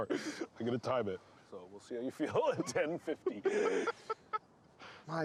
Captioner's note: laughing